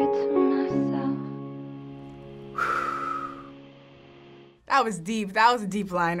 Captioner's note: exhaling deeply